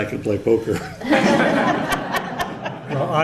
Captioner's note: laughter